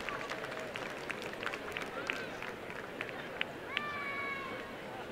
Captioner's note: applause and cheering